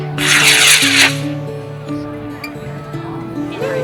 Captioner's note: rocket launching